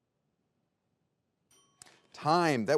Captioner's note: bell dings